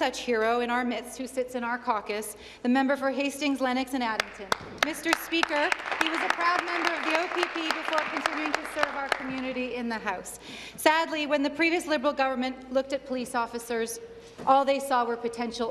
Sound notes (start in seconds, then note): 10.2 applause